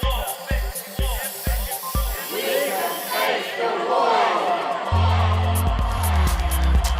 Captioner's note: spray can spraying